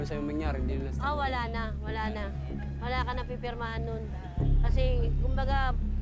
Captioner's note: speaks in foreign language